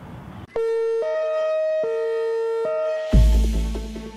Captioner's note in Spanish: sirena; música de suspenso